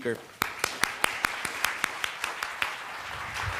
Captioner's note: applause